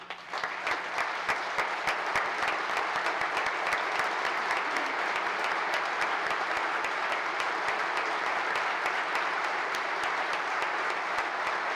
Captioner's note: applause